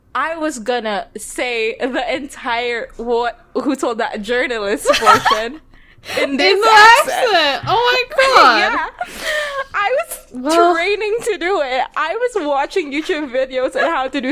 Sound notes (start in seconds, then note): 4.8 laughing; 8.9 laughs